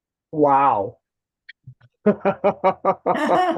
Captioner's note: laughing